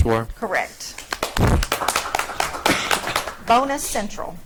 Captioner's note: audience clapping